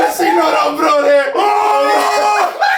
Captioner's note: laughs